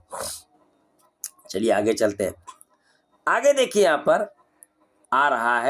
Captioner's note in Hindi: नाक से की जाने वाली आवाज़